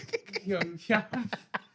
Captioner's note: laughing